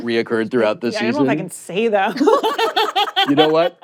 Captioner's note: laughter